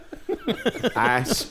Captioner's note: more laughter